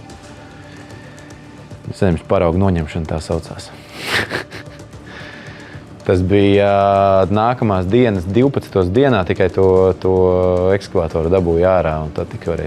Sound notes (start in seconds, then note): 3.8 laughs